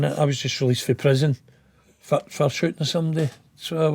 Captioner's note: none